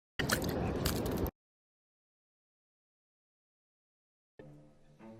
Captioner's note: whale flesh squelches